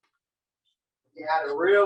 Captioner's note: silence